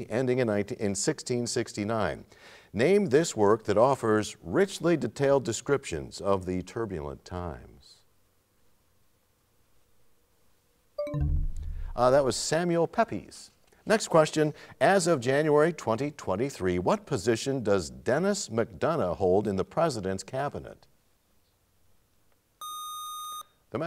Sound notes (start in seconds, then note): 9.1 bell chimes, time expires